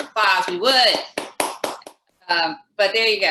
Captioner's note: applauds